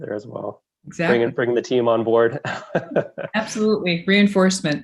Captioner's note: laughs